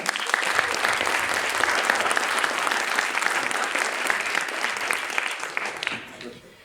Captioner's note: applause